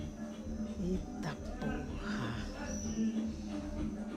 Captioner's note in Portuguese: tom de admiração